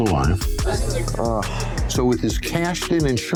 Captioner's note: groans